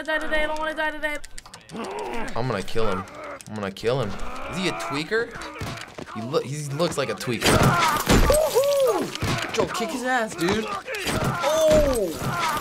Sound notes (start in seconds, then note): 7.9 man groans